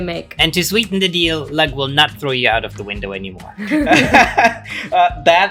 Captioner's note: laughter